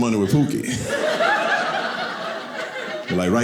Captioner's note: audience laughing